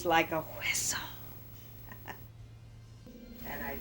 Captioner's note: laughs